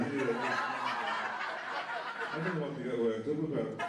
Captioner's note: laughter